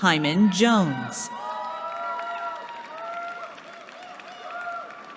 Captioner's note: cheering